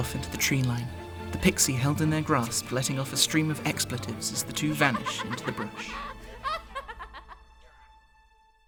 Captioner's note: Changeling giggling